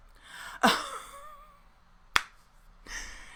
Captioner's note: laughs